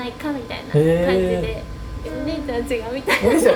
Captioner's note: laughs